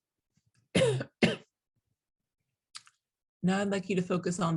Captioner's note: coughs